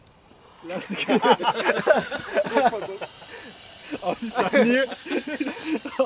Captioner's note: laughter